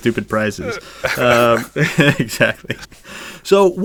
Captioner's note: laughs